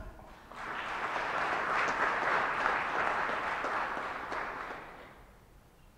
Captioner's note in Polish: oklaski